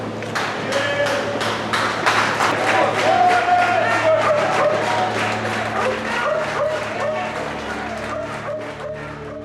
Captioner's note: applause